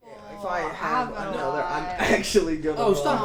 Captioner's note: people chattering